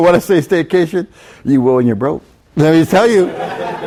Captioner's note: chuckles; students laugh